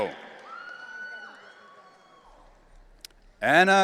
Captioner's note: audience cheering